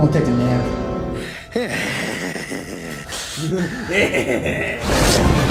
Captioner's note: maniacal laughing